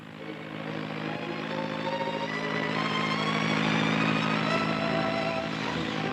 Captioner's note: bird thudding and squawking; propellors whirring; suspenseful music